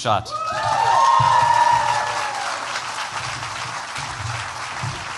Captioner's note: cheers, applause